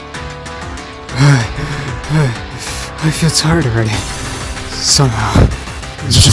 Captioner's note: breathing heavily